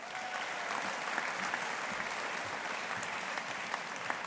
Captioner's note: audience applauding